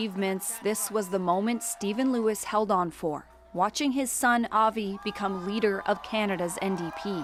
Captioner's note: applause